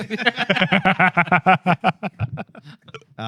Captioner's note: laughter